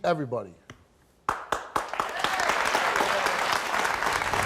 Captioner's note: audience claps